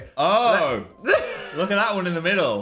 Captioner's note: laughs